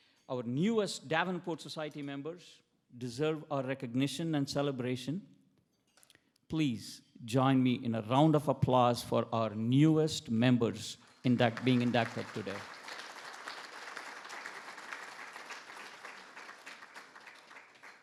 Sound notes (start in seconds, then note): 12.9 attendees applauding